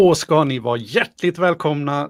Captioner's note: speaking in Swedish